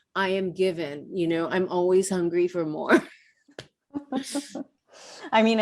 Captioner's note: laughs